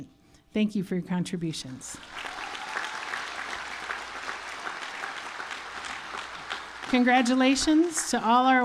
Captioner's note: applause